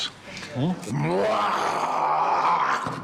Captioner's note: roars